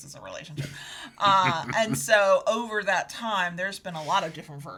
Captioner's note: chuckles